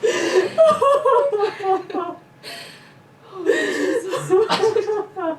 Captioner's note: crying